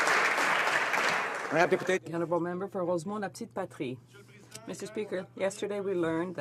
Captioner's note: some Applause